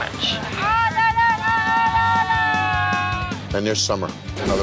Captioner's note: patrons yelling